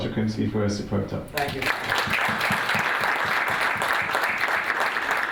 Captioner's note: applause